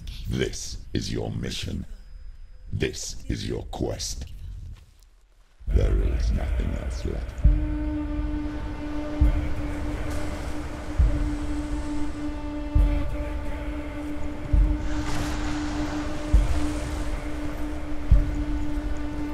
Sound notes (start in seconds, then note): 7.8 melodic chanting with horns and drums; 8.0 waves crashing